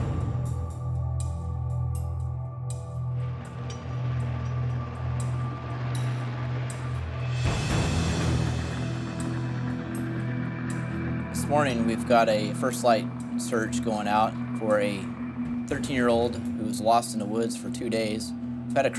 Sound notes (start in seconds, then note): 4.6 helicopter rotors droaning